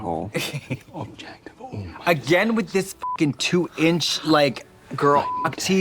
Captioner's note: Katya snickers; beep